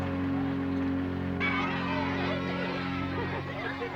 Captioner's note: chatter